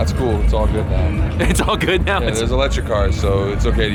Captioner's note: laughing